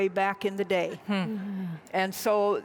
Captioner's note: audience laughs